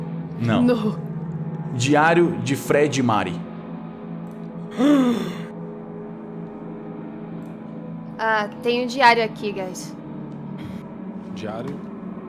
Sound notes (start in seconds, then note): 4.7 gasps